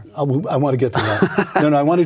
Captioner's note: laughing